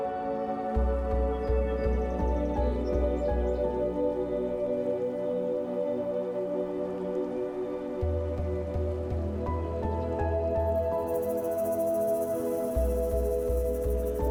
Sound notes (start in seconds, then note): 4.8 gentle wind